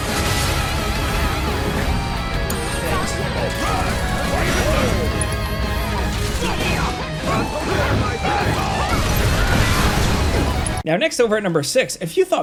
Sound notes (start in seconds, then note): 3.5 characters shouting; 3.5 dramatic music